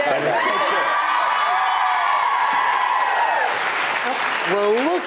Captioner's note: audience cheering